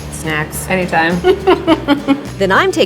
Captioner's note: laughing